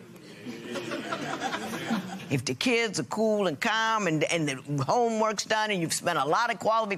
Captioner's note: laughter